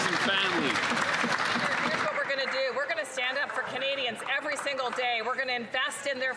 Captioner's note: some Applause